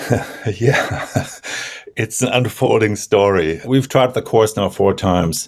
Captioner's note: chuckles